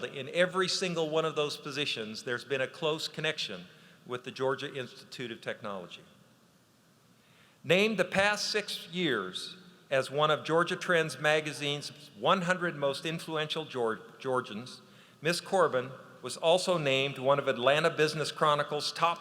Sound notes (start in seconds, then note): none